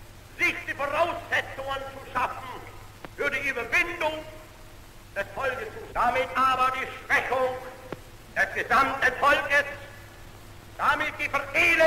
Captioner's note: German speech